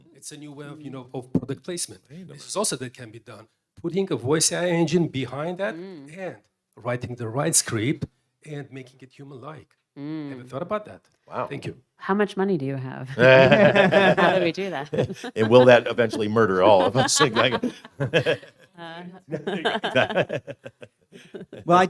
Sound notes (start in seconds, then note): 13.2 laughs; 17.2 panelists laugh; 19.1 laughs